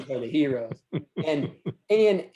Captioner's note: laughs